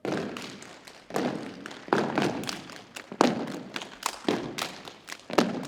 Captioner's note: rhythmic thumping continues; rhythmic thumping and clapping